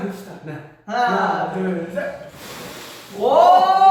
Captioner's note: blows